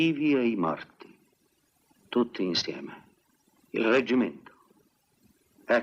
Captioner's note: none